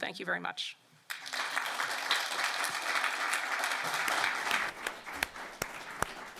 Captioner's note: applause